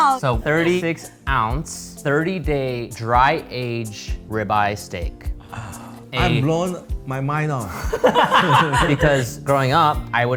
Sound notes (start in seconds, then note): 7.7 all laughing